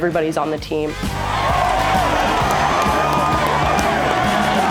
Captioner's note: crowd cheering